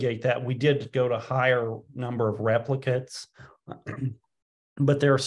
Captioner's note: clears throat